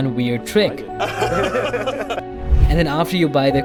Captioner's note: generic bezos laughter